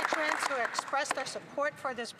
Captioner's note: applause